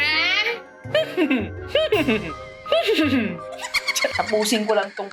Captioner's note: mimics horse neighing